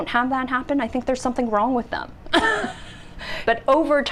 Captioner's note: laughs